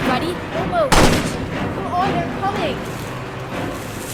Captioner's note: gunshot